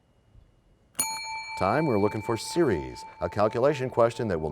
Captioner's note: bell rings, time expires